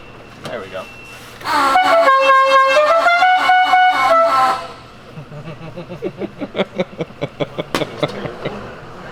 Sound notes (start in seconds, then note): 1.4 funky horn beeping; 5.1 laughing